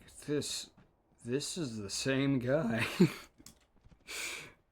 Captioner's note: laughter